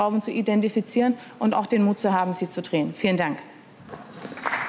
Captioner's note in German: Beifall